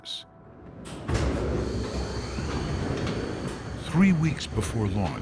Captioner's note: elevator gears whirring